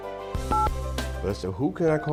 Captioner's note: button tones